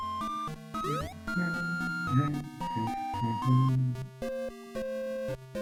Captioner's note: humming along